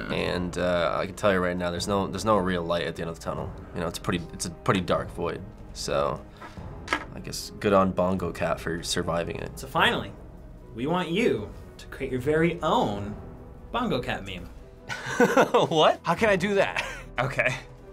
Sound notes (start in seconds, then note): 14.9 laughs